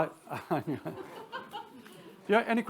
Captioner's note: attendee laughs